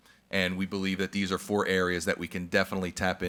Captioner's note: none